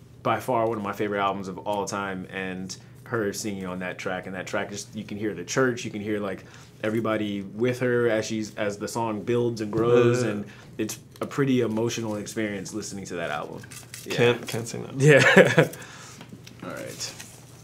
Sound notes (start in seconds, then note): 15.1 laughs